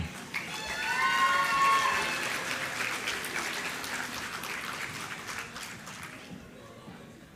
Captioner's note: applause